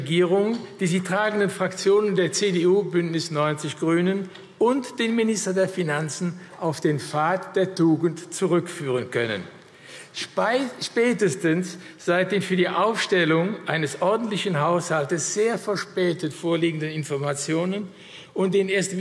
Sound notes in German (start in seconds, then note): none